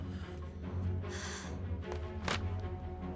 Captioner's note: Sighs